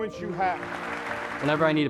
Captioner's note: applause